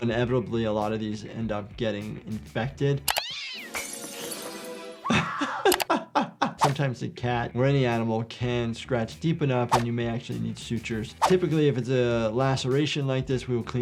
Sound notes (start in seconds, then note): 3.1 cat yowling; 3.6 glass breaking; 5.0 Jordan laughing